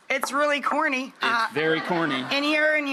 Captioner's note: audience laughter